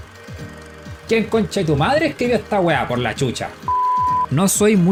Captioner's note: curse in chilean